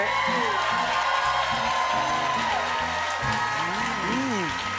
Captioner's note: cheers and applause